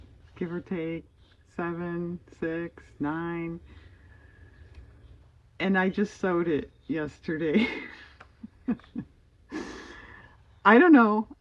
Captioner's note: laughs